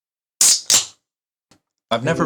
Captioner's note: can opening